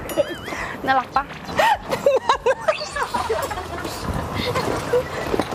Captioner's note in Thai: เสียงหัวเราะ